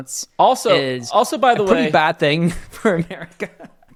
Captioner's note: laughs